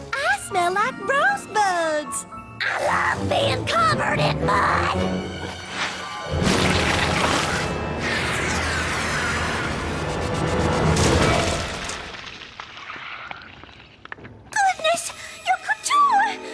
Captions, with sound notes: I smell like rosebuds. I LOVE BEING COVERED IN MUD! (splat) (splash) Goodness! Your couture!